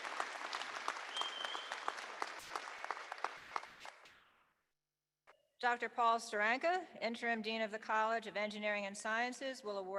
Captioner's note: applause